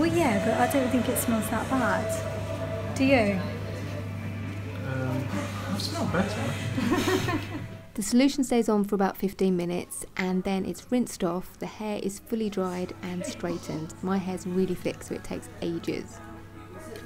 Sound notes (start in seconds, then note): 6.7 laughs